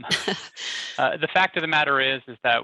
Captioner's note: laughs